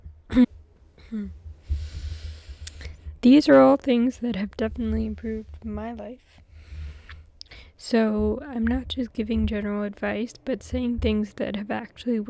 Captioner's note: clears throat